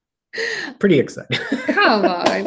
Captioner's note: laughs